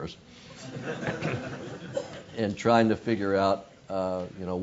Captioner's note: laugh